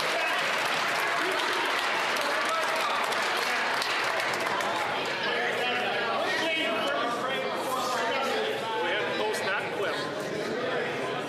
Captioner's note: some Applause